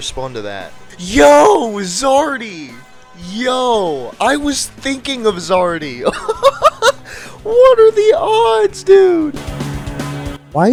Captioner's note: laughing